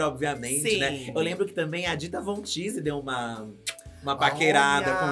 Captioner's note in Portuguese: estalo de beijo